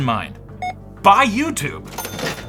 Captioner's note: scanner beep